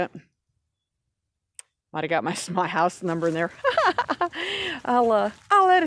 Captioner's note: laughs